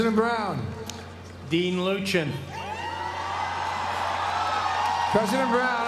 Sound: applause

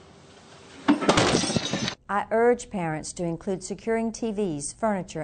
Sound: crash

